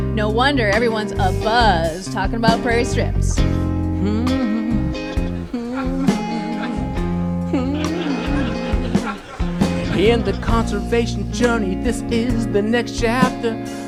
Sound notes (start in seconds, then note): 4.7 hmmm-hmmmmhmmm